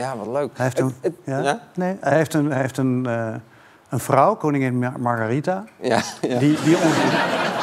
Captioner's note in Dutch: gelach